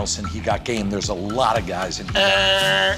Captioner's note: imitates buzzer